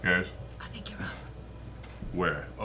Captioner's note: whispering